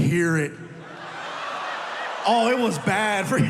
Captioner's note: audience laughing